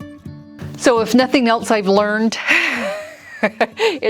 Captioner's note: laughs